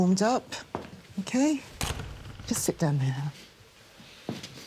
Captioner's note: door clicking shut